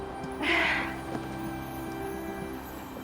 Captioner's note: laughing